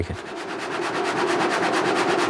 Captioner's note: sawing sounds